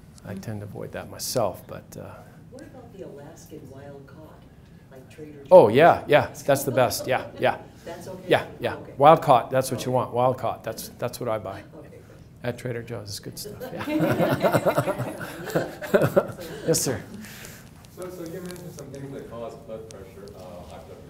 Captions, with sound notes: I tend to avoid that myself. - What about the Alaskan wild cod, like Trader Joe's? - Oh yeah, yeah, that's the best. - That's okay? - Yeah, wild cod, that's what you want. That's what I buy. - Okay, good. - That Trader Joe's, it's good stuff (laughs). (audience laughs) Yes sir. - So you mentioned some things that cause blood pressure,